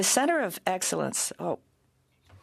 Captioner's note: speaking French